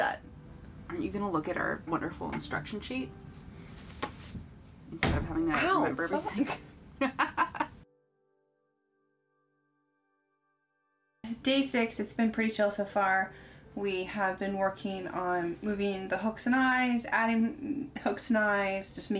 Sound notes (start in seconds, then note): 7.0 laughing